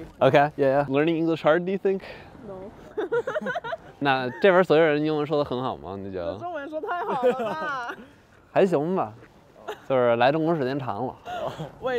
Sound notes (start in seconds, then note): 2.8 laughter; 4.3 speaking in foreign language; 6.8 laughter; 9.0 speaking in foreign language